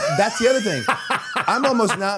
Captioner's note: Matt laughing